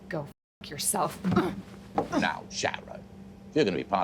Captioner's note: grunting